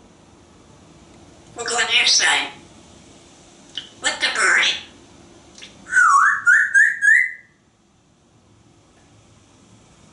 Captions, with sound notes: What in here say What the birdie? [Whistling]